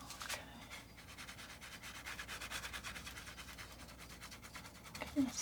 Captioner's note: scratching sounds